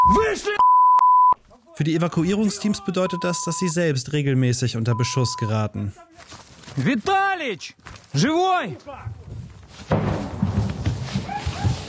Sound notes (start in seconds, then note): 9.8 distant crash